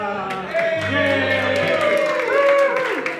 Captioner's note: applause